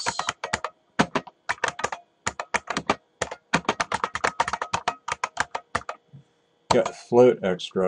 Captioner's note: typing